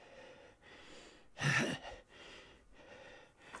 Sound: grunting

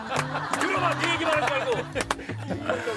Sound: he ends up shouting

